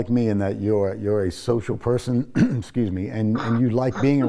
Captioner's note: clears throat